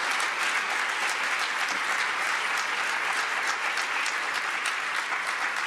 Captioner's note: applause